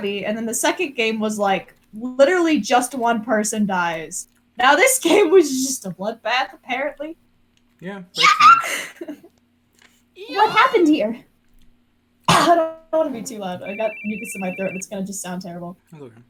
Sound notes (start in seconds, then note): 8.2 trying to scream; 8.3 laughs at self for failing miserably